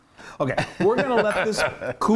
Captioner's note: laugh